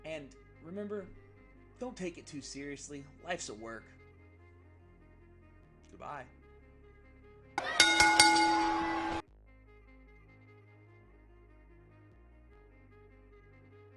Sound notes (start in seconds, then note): 5.4 bell ringing; 5.4 soft music; 7.6 upbeat music